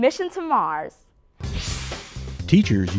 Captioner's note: sound Effects